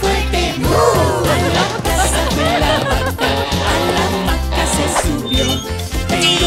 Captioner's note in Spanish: Risas